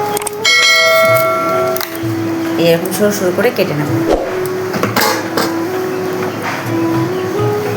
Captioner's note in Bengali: ঘণ্টা